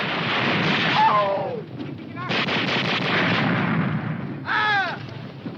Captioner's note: soldier screaming